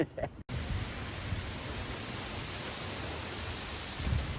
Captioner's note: laughs; heavy rainfall